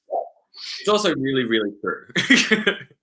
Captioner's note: laughs